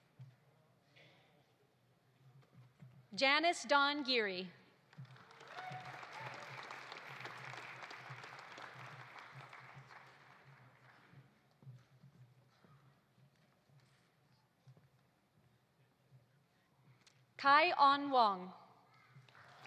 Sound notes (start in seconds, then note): 4.9 audience applauding; 5.3 audience cheering